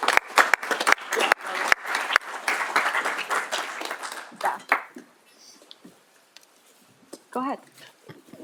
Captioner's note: applause